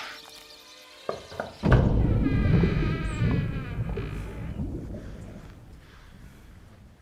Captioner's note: speaks spanish; door knocking and opening